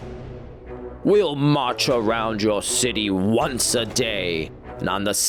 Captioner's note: shouting